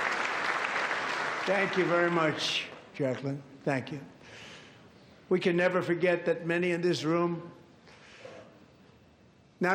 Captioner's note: applause